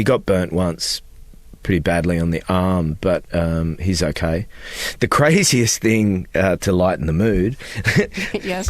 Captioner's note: laughter